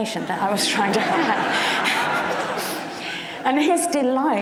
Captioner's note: audience laughs